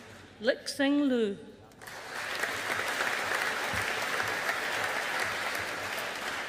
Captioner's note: audience applauding